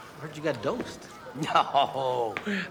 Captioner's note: laughing